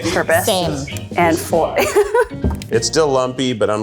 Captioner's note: laughs